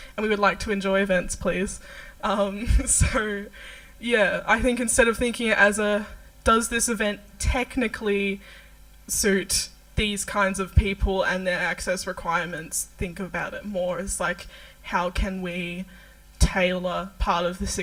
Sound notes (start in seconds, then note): 4.9 laughs